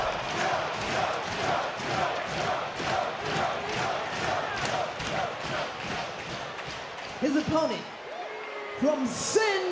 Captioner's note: audience cheering; audience chanting "joe"